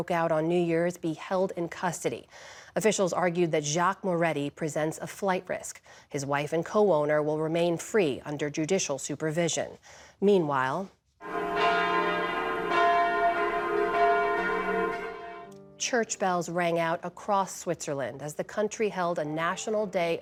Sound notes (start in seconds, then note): 11.2 bells ringing